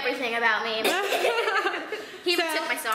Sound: laughter

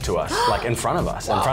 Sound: gasps

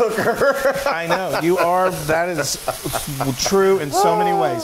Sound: laugh

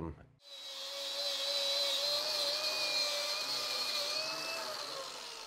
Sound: drill whirring

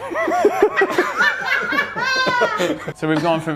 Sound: laughing

